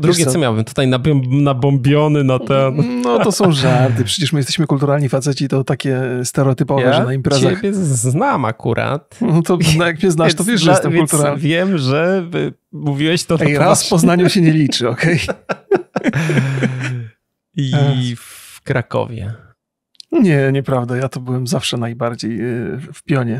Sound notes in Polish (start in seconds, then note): 15.2 śmiech